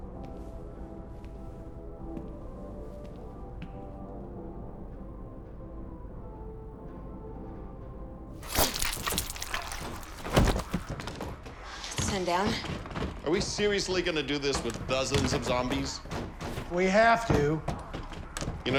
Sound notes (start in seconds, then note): 8.4 squelching